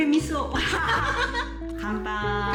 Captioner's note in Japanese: 大爆笑